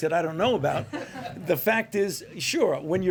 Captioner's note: laughter